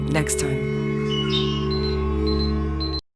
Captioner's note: songbird; beeping